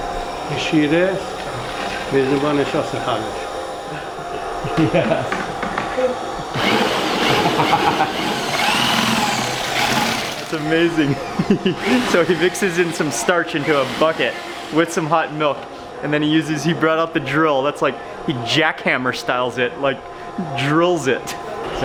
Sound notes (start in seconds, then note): 0.2 man speaks in foreign language; 4.9 drill whirring; 4.9 laughing